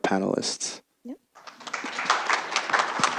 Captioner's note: applause